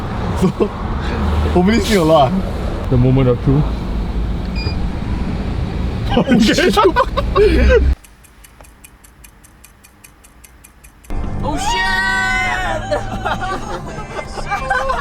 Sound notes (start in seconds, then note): 11.4 Everyone cheering upon the arrival at Genting